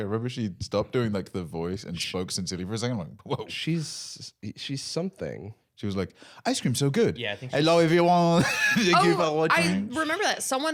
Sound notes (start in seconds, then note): 7.3 French accent